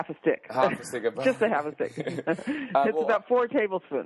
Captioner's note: laughs